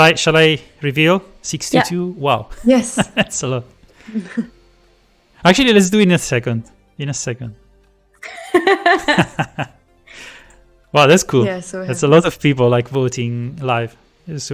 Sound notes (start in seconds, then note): 2.9 laughs; 8.2 laughter